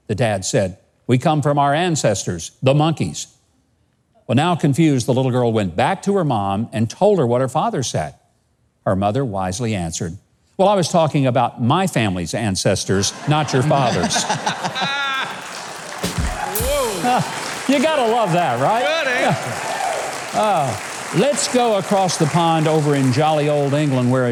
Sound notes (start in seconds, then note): 12.9 people laughing; 14.3 applause